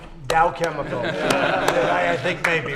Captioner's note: laughter